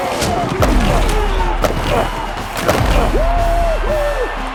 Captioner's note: bodies crunching